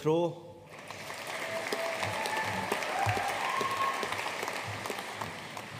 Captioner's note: audience cheering and applauding